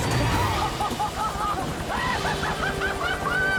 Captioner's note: laughing